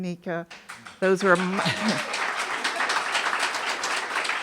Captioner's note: audience applauding